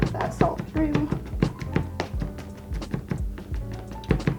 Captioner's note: knife pounds